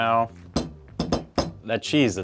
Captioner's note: banging table